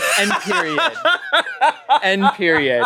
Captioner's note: laughs